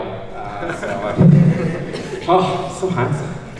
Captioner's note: laughs